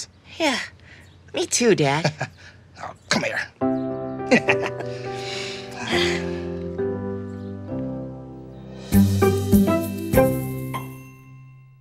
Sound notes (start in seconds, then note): 4.2 dad laughs; 4.7 both sigh; 6.8 light music; 8.6 audio logo